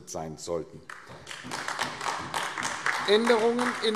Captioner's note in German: Beifall AfD